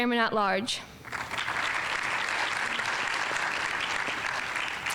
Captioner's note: audience applauding